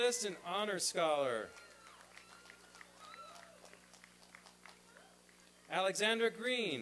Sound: applause and cheering

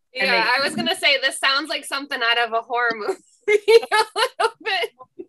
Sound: laughs

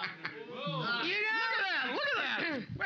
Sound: loudly laughing; audience shouting

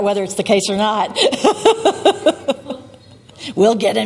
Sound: laughs

